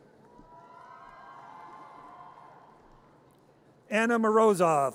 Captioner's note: audience cheers